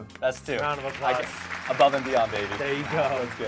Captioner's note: claps; audience applauds